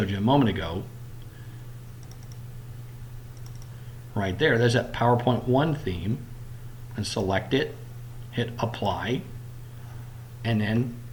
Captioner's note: clicking